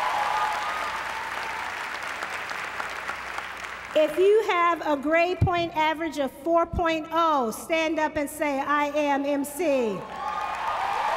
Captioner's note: applause; applause